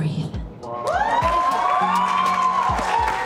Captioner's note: cheering